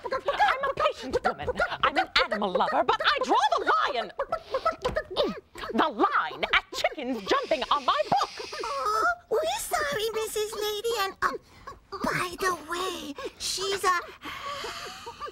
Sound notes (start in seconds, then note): 12.0 whispering